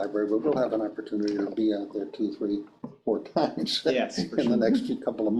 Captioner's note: chuckles